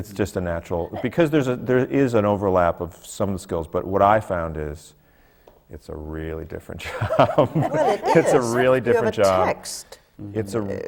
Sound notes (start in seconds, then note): 6.9 laughs